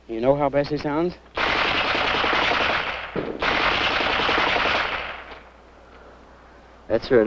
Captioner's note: gunfire